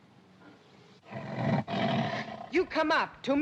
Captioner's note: tiger snarls